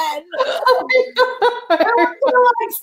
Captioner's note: laughing